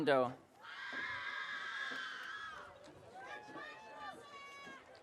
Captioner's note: audience cheering